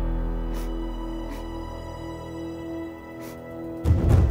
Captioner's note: Sobbing